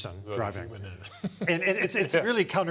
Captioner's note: laughs